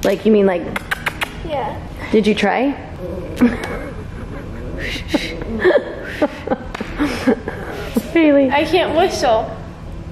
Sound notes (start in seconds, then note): 0.7 sucking noise with lips; 3.0 laughs; 3.1 blowing air